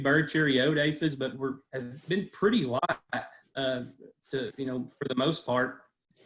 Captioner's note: audio is choppy